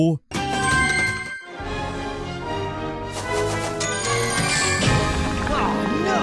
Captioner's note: bell ringing; upbeat music